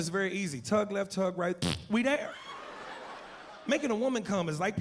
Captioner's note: blows raspberry